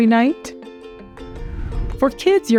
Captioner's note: transition whooshing